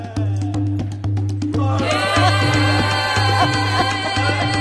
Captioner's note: crowd crying